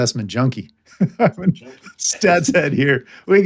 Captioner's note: laughing